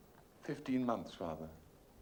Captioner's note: none